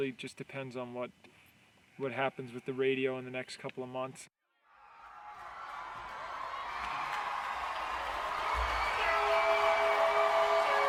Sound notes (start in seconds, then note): 4.6 crowd cheering; 5.6 calm music playing